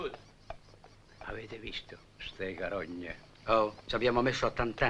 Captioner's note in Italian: sottovoce